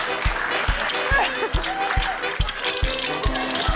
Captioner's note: chuckles